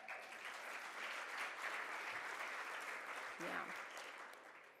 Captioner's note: audience claps